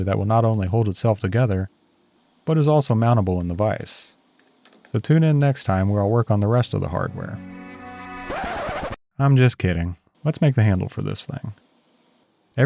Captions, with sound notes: that will not only hold itself together, but is also mountable in the vice. So tune in next time where I'll work on the rest of the hardware. (gentle music) (record scratching) I'm just kidding. Let's make the handle for this thing.